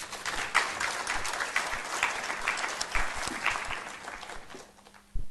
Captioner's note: applause